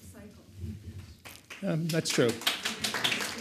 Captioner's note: audience applauds